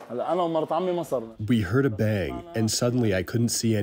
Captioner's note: through translator